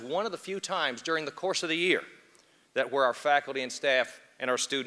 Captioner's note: none